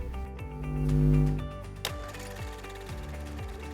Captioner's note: buzzing